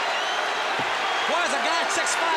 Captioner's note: crowd cheering